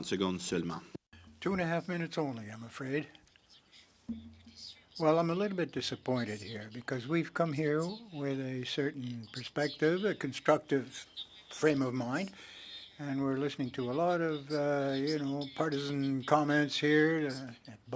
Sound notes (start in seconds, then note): 9.1 speaking French